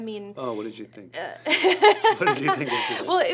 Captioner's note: laughs